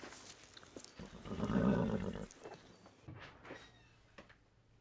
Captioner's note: horse knickers